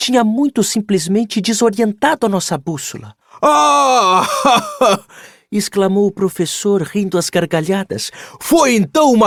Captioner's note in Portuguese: risadas